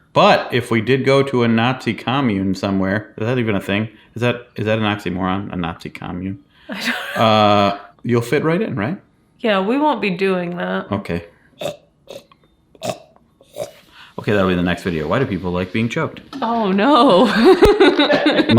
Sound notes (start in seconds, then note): 12.8 choking; 17.3 laughing